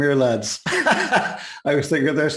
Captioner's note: laughing